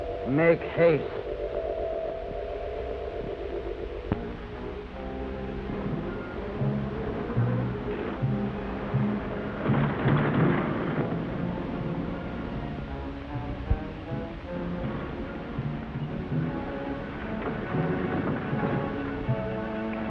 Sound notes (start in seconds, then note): 4.0 dramatic orchestral music; 6.7 car rumbles